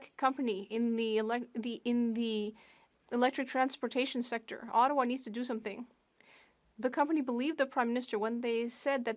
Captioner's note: speaking French